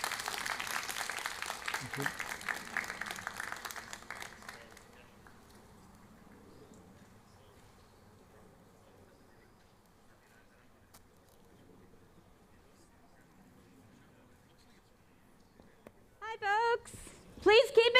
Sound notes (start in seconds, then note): 5.0 applause